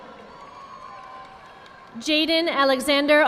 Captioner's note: audience applauding